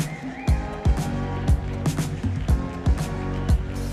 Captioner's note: cheering